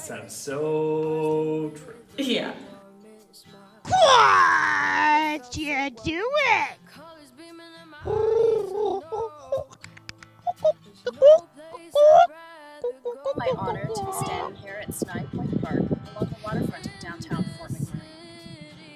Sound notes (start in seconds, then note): 8.4 birds chirping